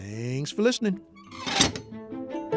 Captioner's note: gentle quirky music; gate creaks